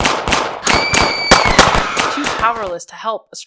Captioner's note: scream